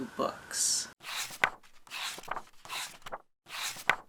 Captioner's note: pages turning